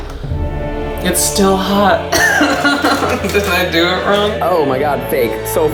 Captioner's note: laughing